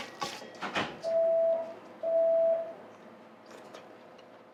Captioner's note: beeping sound